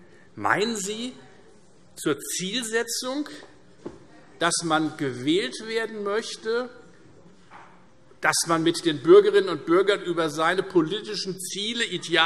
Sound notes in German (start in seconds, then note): none